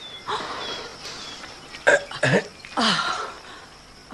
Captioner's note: grunting